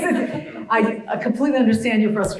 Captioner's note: laugh